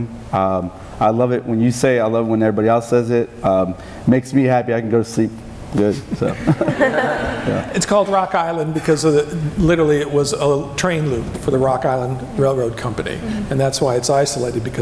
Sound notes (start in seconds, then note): 6.1 laughing